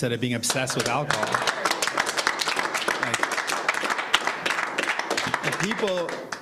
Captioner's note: applauding